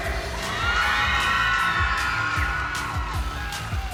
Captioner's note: applause